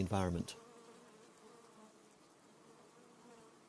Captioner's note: bees hum